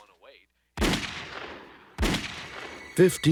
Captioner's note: gunshot